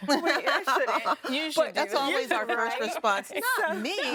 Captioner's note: laughing